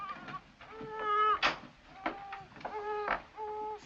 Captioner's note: baby cries